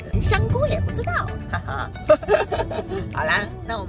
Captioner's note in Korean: 자랑스러운 웃음!!